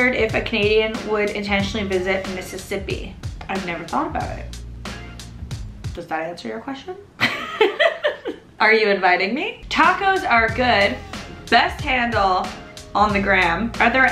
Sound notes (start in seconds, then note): 7.2 laughs